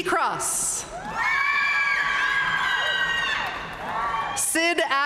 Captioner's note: audience cheering and applauding